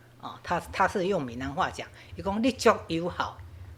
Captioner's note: Taiwanese